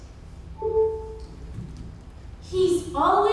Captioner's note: computer beeps